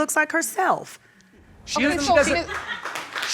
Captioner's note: audience laughing and applauding